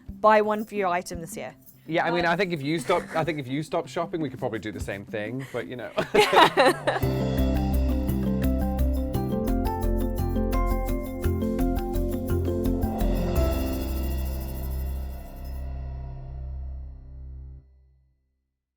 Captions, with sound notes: buy one fewer item this year. - Yeah, I mean I think if you stopped shopping, we could probably do the same thing, but you know. (both laugh) (chiming music)